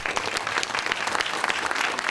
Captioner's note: applause